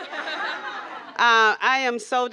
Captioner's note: laughter